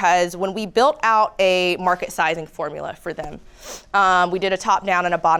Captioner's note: sniffs